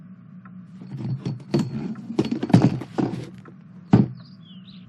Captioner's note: chair scrapes and fall over